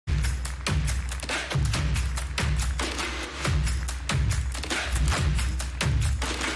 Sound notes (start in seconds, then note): 0.0 dynamic music; 0.1 audience applauding